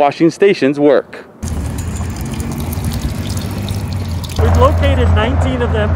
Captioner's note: water trickling